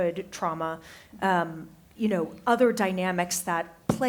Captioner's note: none